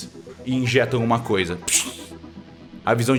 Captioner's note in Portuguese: pshh